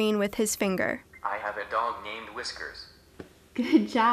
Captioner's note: male voice from device